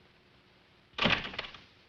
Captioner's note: door closes